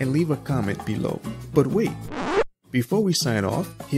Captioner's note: record scratch sound